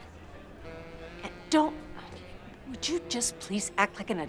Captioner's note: sighs